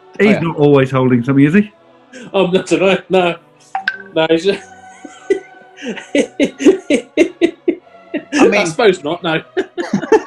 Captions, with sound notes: He's not always holding something, is he? I dunno – no! [LAUGHTER] I suppose not, no.